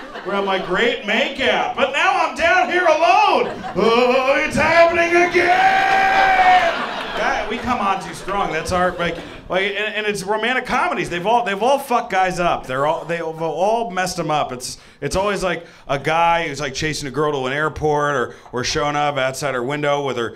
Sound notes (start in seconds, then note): 5.7 audience laughing